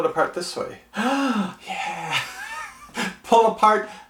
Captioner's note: gasps; laughs